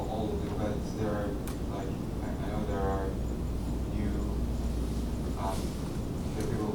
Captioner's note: faintly speaking